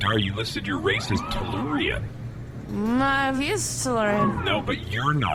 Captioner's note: slurring